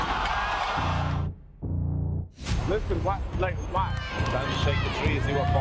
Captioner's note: crowd cheering